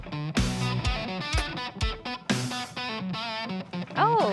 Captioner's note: arrow shot